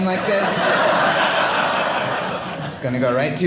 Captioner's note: audience laughing